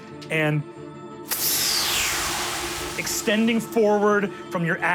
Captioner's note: dramatic music; imitates whizzing